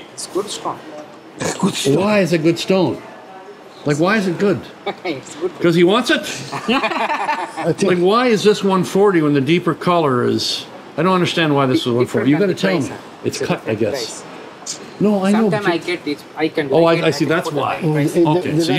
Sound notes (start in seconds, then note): 6.3 laughs; 6.4 all laugh